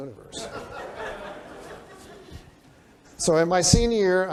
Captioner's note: laughter